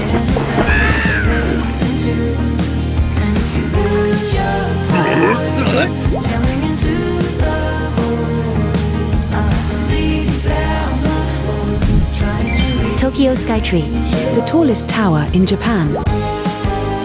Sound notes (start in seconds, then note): 4.9 grunt!; 4.9 grunt?